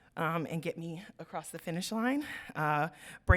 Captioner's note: none